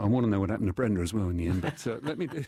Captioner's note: laughter